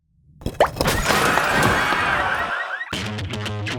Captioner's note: pops; clamors